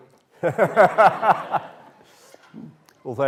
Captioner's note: laughter